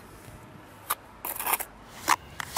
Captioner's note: scratching noises